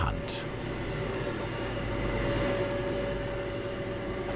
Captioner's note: low background whirring